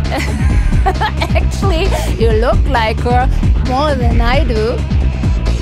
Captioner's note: laughs